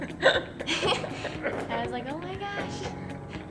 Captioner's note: both laugh